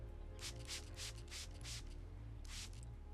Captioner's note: water spraying